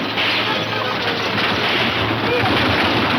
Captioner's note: grunts; horses gallop; several gunshots